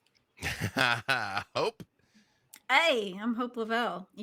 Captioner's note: laughs